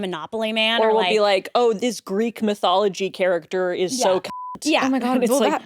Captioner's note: beep